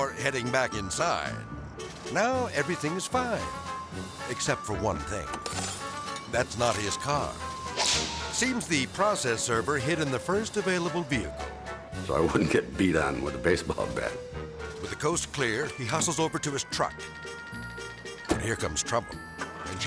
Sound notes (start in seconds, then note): 5.4 glass shattering; 7.6 air swoosh; 17.4 melodic music; 18.2 door slamming